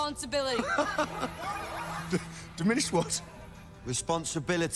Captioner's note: laughs